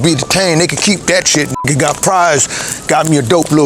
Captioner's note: beep